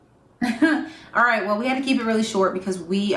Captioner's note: chuckling